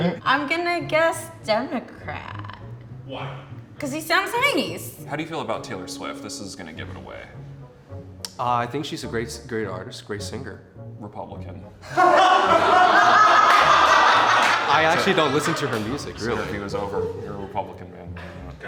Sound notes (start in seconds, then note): 11.8 laughter